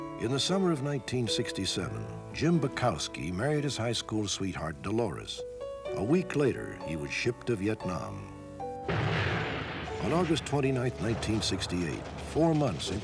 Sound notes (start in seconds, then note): 8.8 bomb exploding